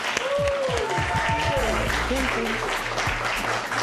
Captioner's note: cheers and applause